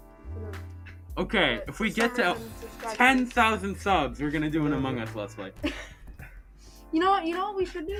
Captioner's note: laughing